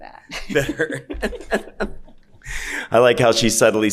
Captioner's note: laughing